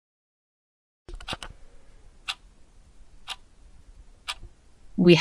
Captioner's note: clicking